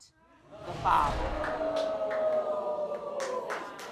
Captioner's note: crowd whooping